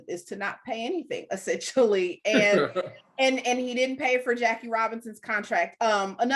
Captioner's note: both laughing